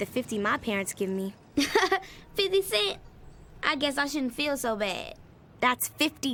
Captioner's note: laughs